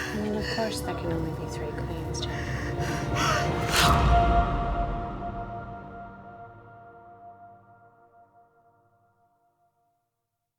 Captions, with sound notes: I mean, of course that can only be three queens, Janet. (tense music) (Janet gasps)